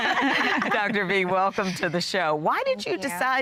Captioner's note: laughter